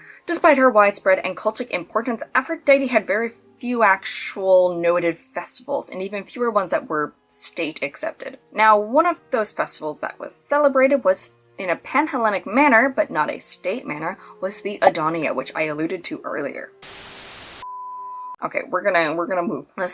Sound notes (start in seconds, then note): 16.8 TV static; 16.9 holding pattern beeps